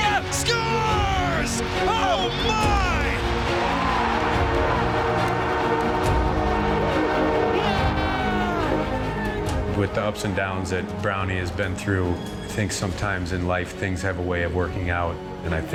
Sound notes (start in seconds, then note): 3.2 horn buzzing; 3.3 cheering